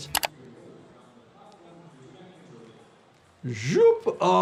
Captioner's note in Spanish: locutor de fondo hablando